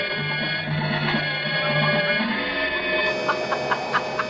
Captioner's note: laughing